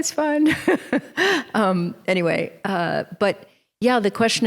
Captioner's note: chuckles